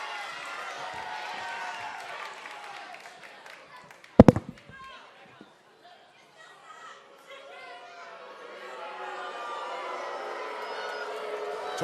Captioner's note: cheers and applause